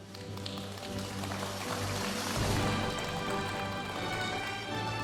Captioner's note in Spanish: aplausos de la audiencia; continúa la música majestuosa suave en el fondo